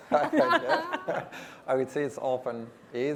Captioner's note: panel laughs